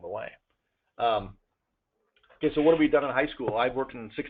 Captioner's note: pause